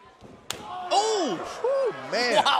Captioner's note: crowd cheering